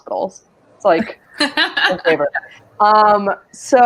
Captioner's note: laughs